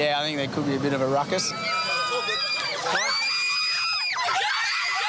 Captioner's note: screeching